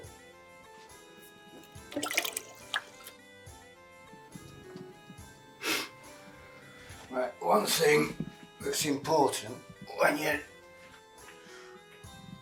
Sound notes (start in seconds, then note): 0.2 laid back music; 5.6 Barry sniffs